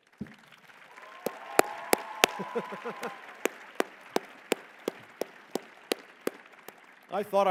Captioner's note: applause